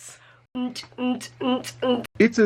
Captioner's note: simulates techno beat